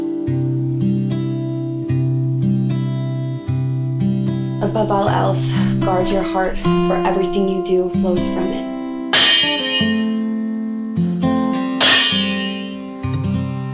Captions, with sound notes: Above all else, guard your heart, for everything you do flows from it. (lids clanging)